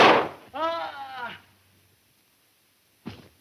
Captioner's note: gun fires; groans